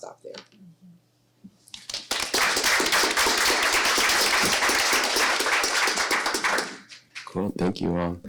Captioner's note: applause